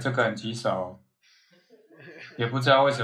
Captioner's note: laughing